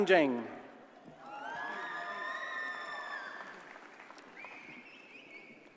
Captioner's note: audience cheers and applauds